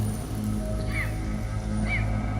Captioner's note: debris falling